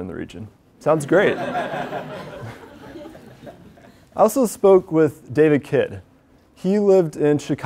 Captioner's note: laugh